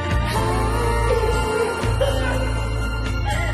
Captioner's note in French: both laughing